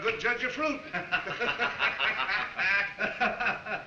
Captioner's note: both laugh